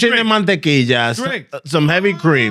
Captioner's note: speaking Foreign Language